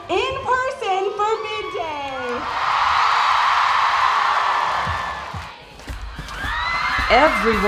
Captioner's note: applause